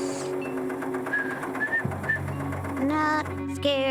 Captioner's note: whistling